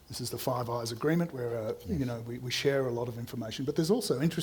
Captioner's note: none